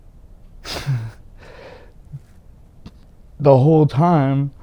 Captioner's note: sighs